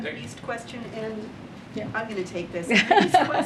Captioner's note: laughs